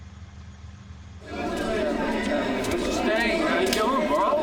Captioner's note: people chattering